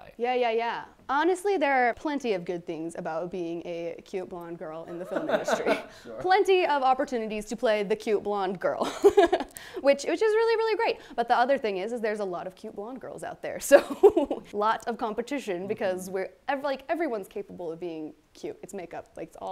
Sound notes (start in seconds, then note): 4.9 chuckles; 4.9 laughs; 9.3 laughs; 14.2 laughs